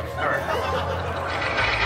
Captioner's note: guests laughing